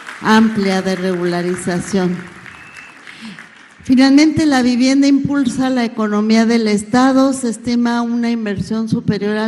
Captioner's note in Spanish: aplausos